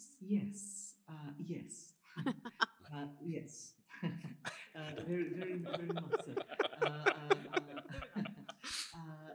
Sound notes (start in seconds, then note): 2.1 chuckles; 4.4 laughter